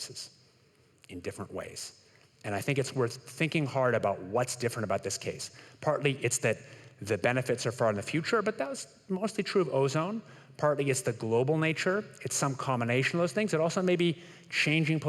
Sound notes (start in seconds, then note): none